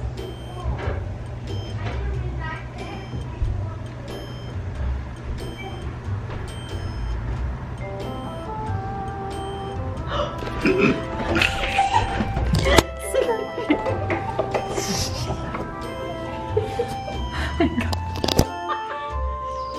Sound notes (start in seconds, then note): 8.5 elevator music; 10.0 gasps; 11.3 laughter